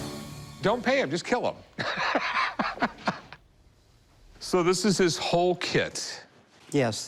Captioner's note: laughs